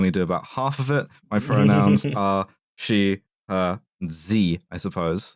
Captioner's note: laughs